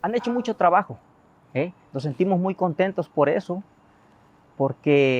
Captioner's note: speaking Spanish language